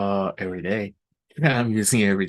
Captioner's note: laughing